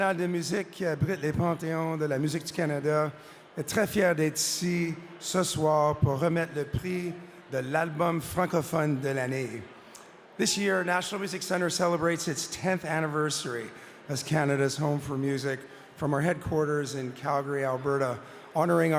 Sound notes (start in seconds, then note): 3.9 speaking french